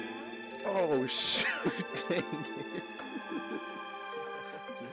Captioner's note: laughs